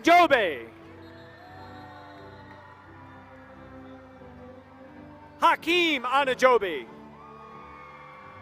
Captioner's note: applause; applause